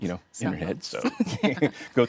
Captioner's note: laughing